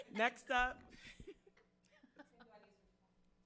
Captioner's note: members laughing